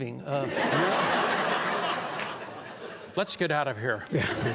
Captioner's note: audience laughing